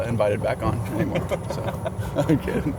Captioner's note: laughs